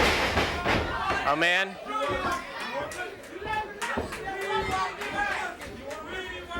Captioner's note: body thudding